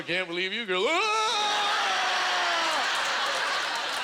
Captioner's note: audience laughter